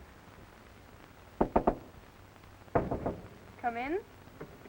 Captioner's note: knocking on door